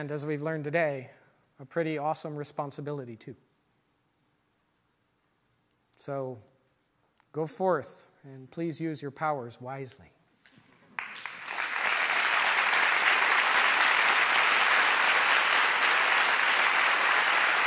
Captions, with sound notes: and as we've learned today, a pretty awesome responsibility too so go forth and please use your powers wisely. (audience applause)